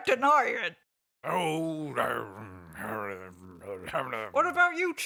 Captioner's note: continues muttering